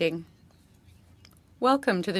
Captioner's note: speaking French